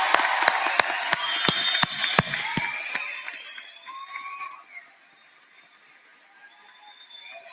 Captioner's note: applause